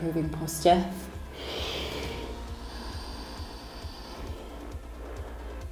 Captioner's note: inhaling and exhaling